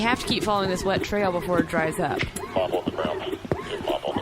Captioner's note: muttering quietly